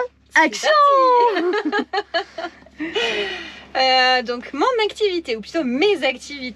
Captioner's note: laughs